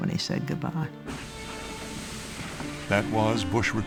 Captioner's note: steam hissing